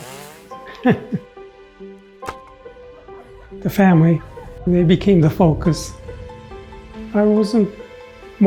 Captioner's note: laughs